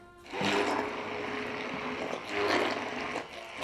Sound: whirring

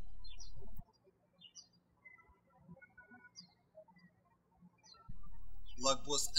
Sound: birds chirping

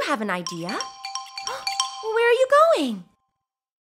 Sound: gasp

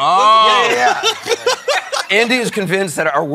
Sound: laughter

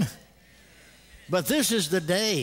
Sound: congregation: "amen."

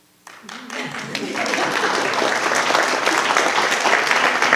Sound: audience applauding

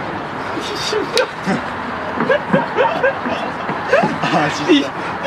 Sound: laughing after hearing heart beat

